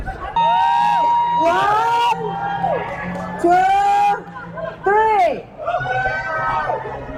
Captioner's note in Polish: Aplauz